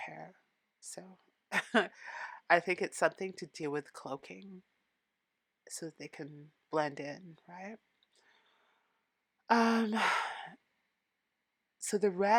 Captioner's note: nervous laugh